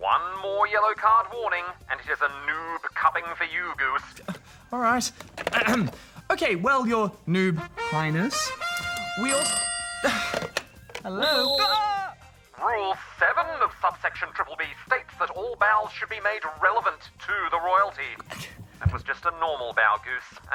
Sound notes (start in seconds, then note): 4.2 clears throat; 8.3 phone rings; 10.2 sighs; 11.0 whistle blows